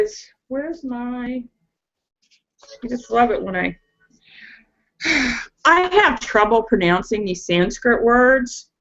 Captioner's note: sighs